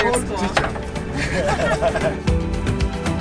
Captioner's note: everyone laughing happily; feel-good music continues